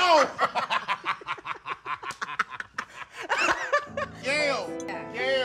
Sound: group laughing

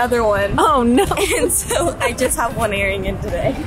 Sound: laughs

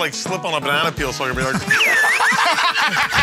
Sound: laughter; slide whistle plays

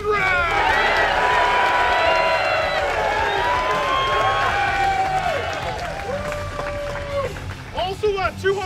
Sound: cheers

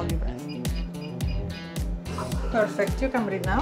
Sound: machine beeping

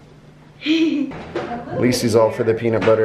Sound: chuckles

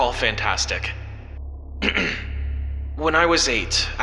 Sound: Collins clears his throat

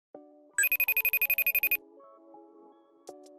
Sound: phone ringing

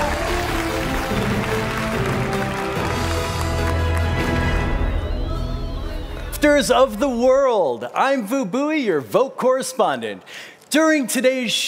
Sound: applause

